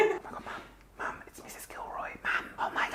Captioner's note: whispers